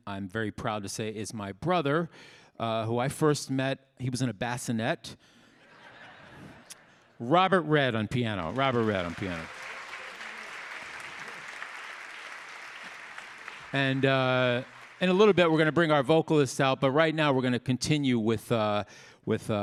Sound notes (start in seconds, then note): 5.6 audience laughing; 9.4 audience applauding; 10.2 audience cheering